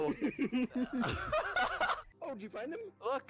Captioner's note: laughing